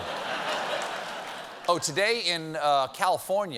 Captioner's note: laughter